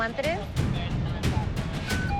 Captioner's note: chattering; radio beeping